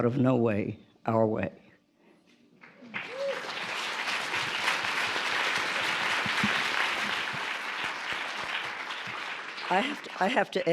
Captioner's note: applause